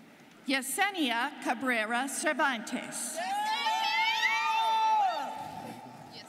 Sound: students cheering

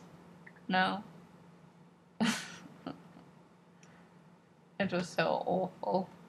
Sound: sad laugh

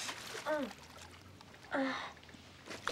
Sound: sighing

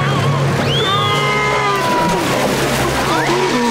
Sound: screaming

